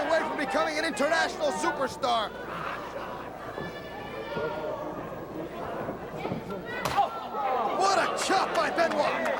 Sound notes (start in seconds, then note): 4.0 crowd chatter